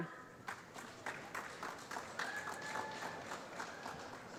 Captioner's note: applause